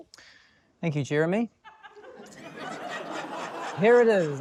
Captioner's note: laughter